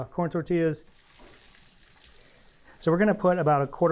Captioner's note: sizzling